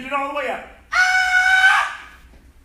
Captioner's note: enthusiastic shouting